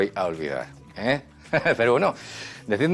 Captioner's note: laughs